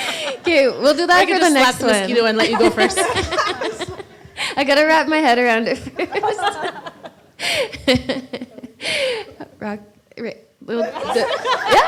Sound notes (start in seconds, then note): 5.9 laughter